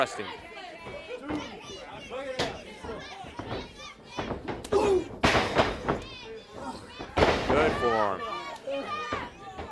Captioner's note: crowd chatter